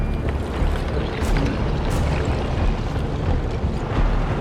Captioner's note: water rushing; tense music